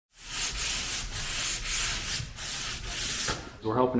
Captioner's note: wall sanding sounds